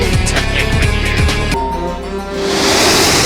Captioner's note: spooky music; ping